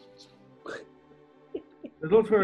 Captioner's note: giggling